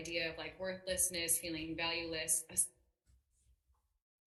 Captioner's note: voice cuts out